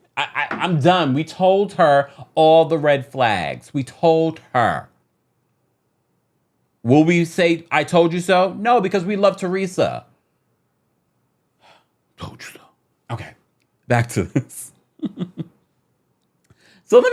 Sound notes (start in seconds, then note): 11.7 sighs; 14.9 chuckles